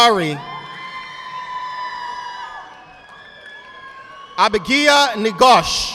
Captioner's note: audience applauding